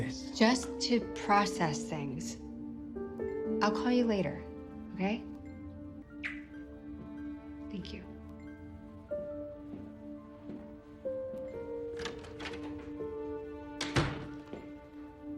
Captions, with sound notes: - Just to process things. I'll call you later, okay? - Thank you. (door opens and closes)